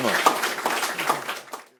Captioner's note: applause